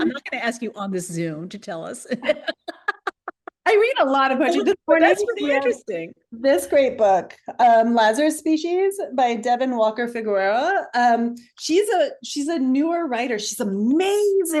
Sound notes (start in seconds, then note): 2.1 laughter